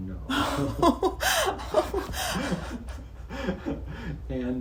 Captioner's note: both laugh